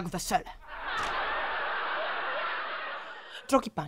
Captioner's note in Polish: śmiech publiczności prawdopodobnie z elektronicznego odtwarzacza